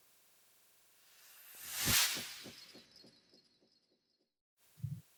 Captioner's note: sound effect